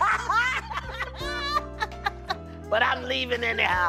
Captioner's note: laughter